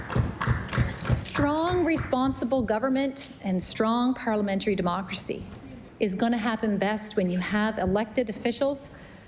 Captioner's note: some Applause